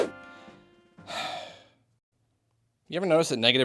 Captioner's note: sigh